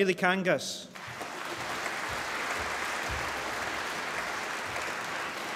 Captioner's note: applause